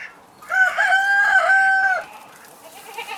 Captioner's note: farm animal noises; rooster crows; sheep baaing